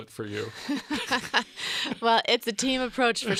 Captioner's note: laughs